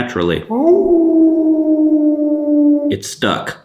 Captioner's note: wolf howls